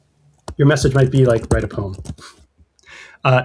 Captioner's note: uh